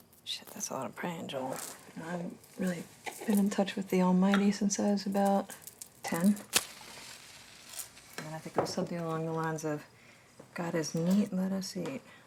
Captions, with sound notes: - Shit, that's a lot of prayin', Joel. I haven't really been in touch with the Almighty since I was about 10. (match striking) And I think it was something along the lines of, "God is neat, let us eat."